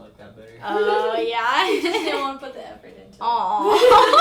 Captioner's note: laughs; laughs